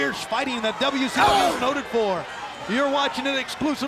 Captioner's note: wrestler grunting